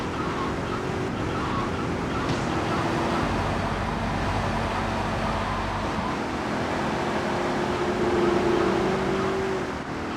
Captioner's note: plane engine roaring